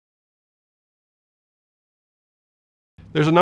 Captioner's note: no audio